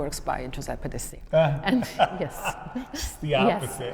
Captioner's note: laughs